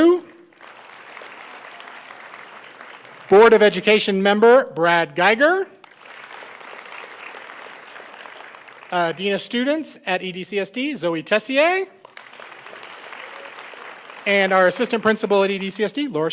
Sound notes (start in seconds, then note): 5.8 applause